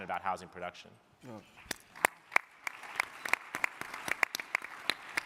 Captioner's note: crowd clapping